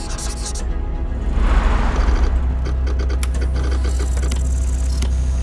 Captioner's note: marker squeaks; retro printer sounds